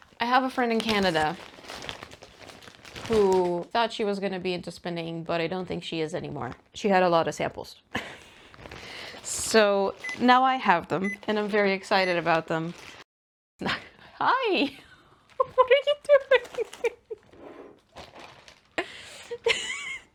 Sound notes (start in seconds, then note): 8.7 laughs; 15.4 continues laughing; 15.4 laughs